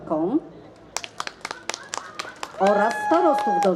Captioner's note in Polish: oklaski